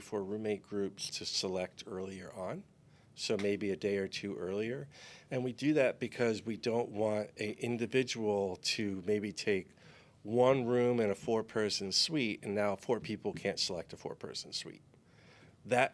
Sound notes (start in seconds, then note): none